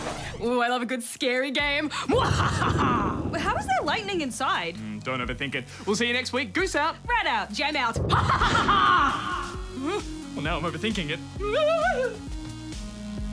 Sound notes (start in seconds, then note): 2.2 thunder rumbles; 11.3 squeals; 11.4 whimpers